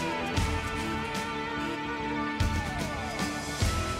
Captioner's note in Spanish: none